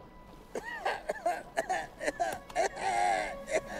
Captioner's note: he coughs